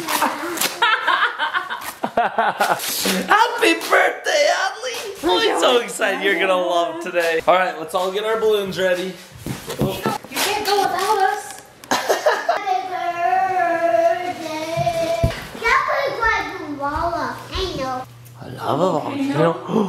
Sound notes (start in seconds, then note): 0.7 mom laughs; 2.2 dad laughs; 11.9 dad laughs; 13.6 sings; 19.5 gasp